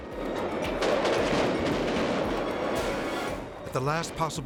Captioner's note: fireworks exploding